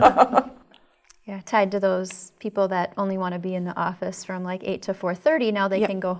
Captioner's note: laugh